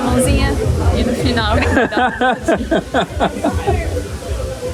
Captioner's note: laughter